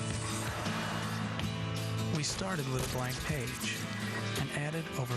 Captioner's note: lions growling